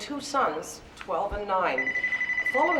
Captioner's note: telephone rings